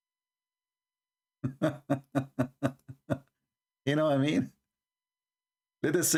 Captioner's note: Ketawa